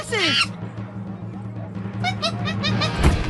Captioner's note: monkey chattering